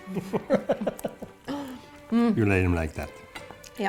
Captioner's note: laughing